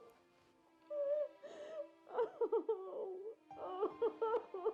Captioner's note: crying